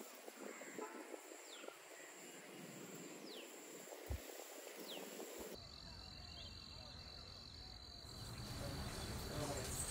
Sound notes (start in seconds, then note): 0.0 chirping sound of birds